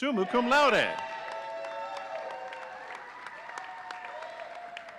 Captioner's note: audience cheering